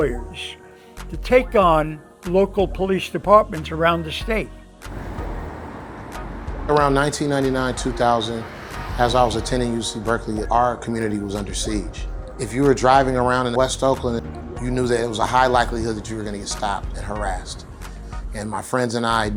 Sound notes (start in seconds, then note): 4.8 traffic whirring